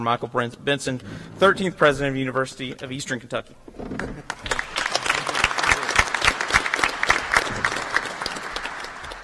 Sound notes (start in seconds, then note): 4.2 applause